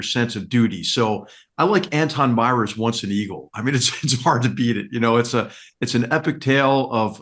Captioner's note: laugh